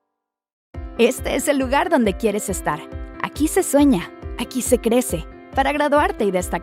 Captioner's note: announcer speaking Spanish